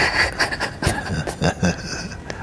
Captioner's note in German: lacht; Fragende lacht